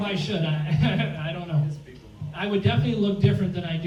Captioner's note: laughs